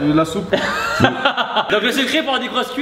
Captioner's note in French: rire